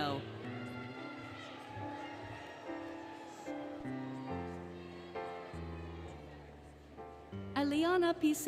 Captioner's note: cheering, Music